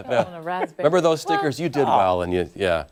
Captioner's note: laughter